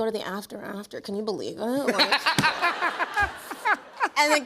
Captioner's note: laughs